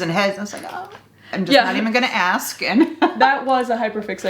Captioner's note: laughs